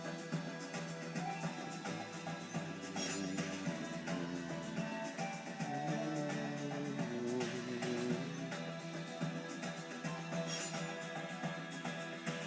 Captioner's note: humming along to music